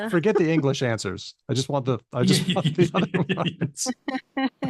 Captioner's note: laughter